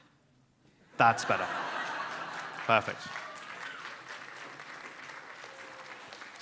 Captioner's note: audience laughs and applauds